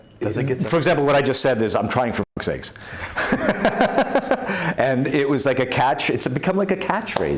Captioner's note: laughs